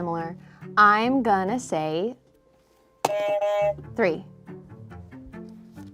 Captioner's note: buzzer honks